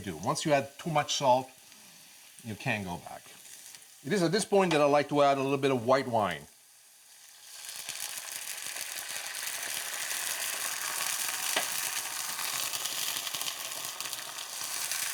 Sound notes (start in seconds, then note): 7.0 sizzling